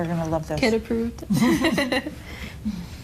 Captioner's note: both Laughing